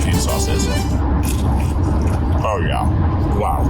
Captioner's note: crunching